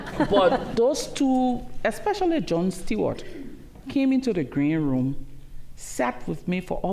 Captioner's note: laughter